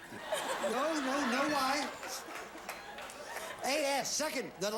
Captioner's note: audience laughing